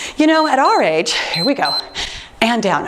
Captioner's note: timer beeps